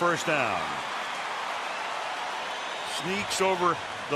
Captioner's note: cheering